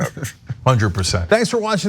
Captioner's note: laugh